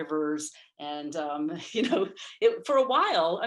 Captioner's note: giggles